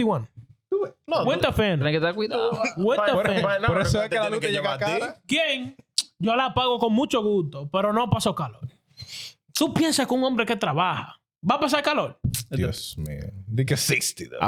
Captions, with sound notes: Do it. (Speaking In Foreign Language) Because 60.